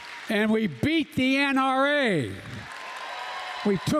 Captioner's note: applause; applause